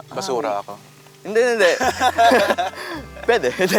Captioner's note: laughter